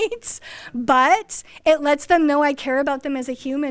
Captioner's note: laughs